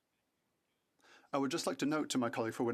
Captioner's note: speaking French